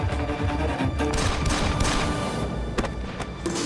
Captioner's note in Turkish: Silah sesleri